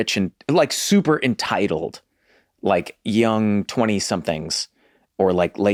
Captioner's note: none